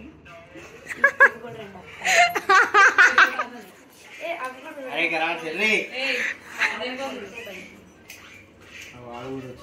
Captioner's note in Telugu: నవ్వు